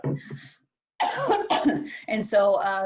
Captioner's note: coughing